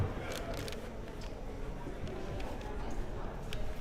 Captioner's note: crowd murmuring